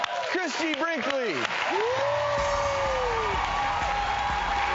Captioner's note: applause